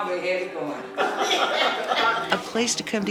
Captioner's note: residents laughing